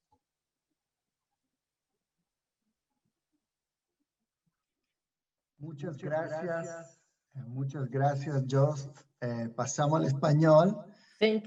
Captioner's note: speaking in Spanish